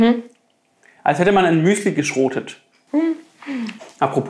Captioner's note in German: Sie lacht